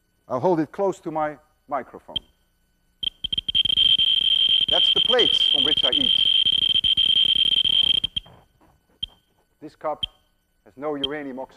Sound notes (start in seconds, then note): 3.0 rapid high-pitched beeping; 8.4 much slower beeping